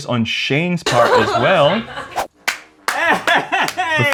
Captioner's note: laughter